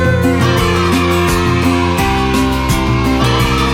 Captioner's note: cheers